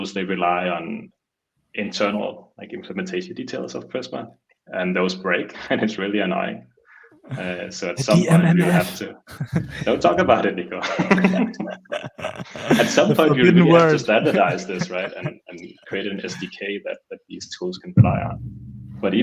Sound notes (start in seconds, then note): 10.8 all laughing